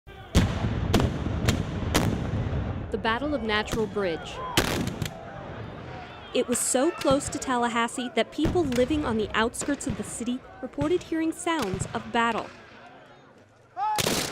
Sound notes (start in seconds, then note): 0.3 cannon fire; 4.5 gunshots